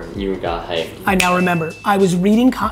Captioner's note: bell dinging